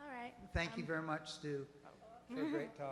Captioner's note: voiceover